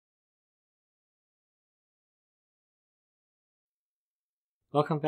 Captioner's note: pause